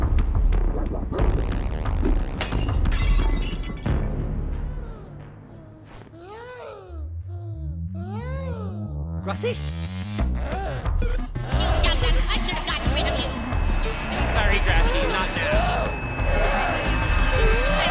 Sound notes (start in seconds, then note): 4.6 crying; 10.4 crying; 17.3 grassy sobs